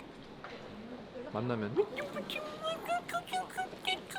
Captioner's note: cute noises